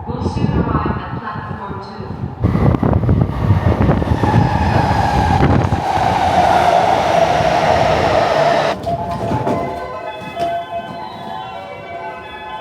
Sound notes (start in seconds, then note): 4.7 train brakes screeching; 9.7 gentle music